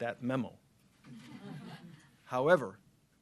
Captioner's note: laughter